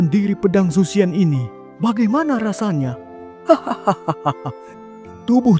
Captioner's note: laughs